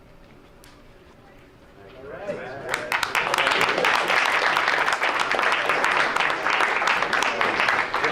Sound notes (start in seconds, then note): 2.5 crowd applauds